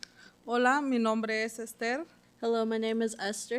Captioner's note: speaking Spanish